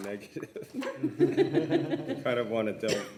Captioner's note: many laughing